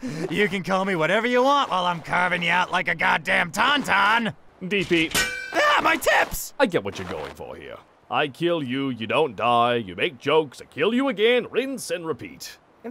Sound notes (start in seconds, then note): 0.0 manic giggling; 5.1 snap!